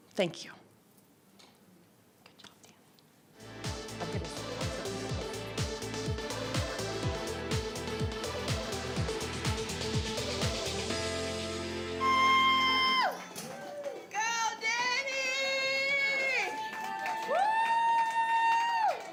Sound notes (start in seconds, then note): 3.7 upbeat music; 12.0 cheering